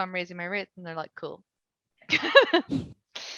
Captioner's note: laughing